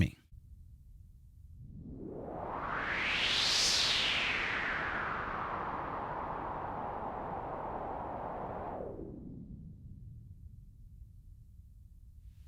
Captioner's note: filtered noise playing